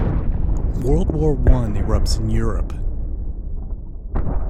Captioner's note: voiceover